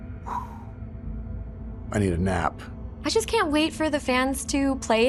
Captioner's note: exhales